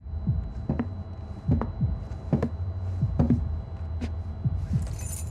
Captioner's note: heart beat thumping; footsteps clomping